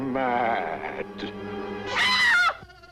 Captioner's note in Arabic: صراخ